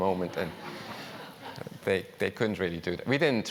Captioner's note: laugh